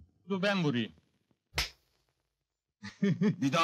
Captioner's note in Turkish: vurma sesi̇ duyulur